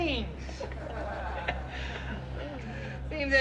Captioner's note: patrons laughing